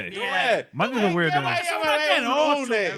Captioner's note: speaking In Foreign Language